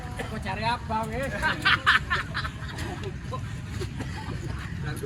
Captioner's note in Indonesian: tertawa